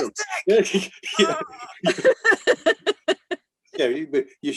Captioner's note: laughs